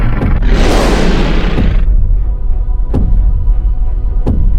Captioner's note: dinosaur roaring